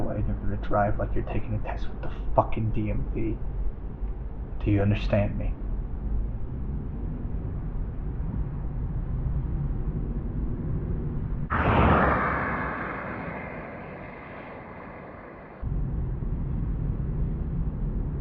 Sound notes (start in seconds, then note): 11.5 car races